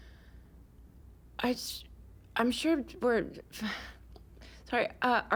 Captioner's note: sighs